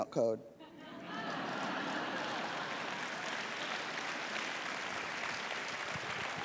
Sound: audience laughs; audience claps

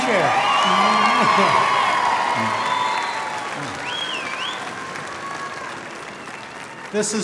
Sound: applause

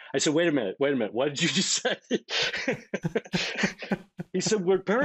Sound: laughing

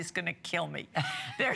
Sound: laughter

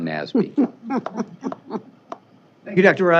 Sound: chuckling

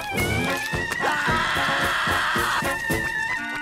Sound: clarinet playing; screaming

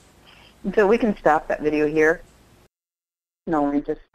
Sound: voiceover

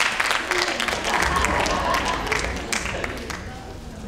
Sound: laughing

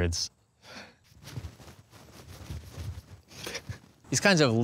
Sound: rustling

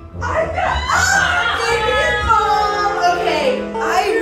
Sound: people shouting

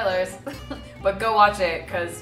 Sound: laughs

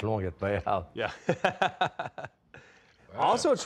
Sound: laughs

